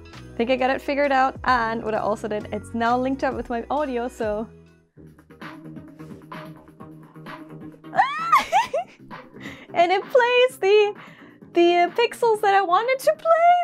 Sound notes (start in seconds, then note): 7.9 sounds of joy